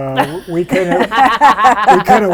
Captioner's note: laughter